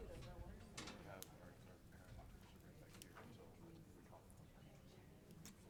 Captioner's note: attendees chattering